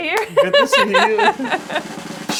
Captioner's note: both laugh; drum roll